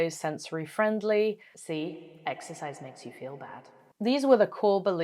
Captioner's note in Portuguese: voz com eco